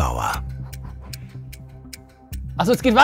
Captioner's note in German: Schnelle Atemstöße